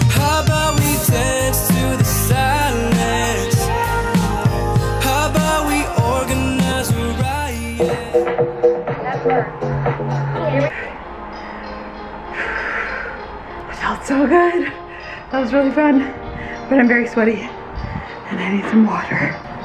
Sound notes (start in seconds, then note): 8.3 upbeat music; 10.2 breathing heavily